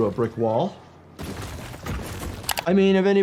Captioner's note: bricks crash